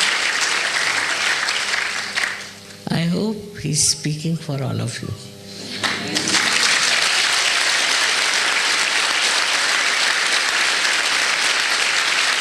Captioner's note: more applause